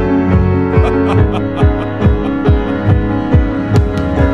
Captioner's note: laughter